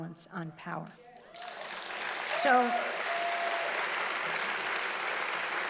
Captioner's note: audience applauding loudly